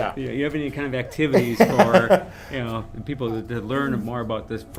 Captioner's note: laughs